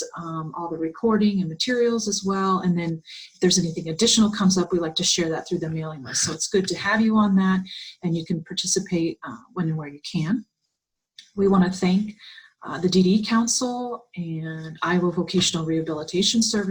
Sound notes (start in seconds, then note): 8.1 Vietnamese; 15.6 Arabic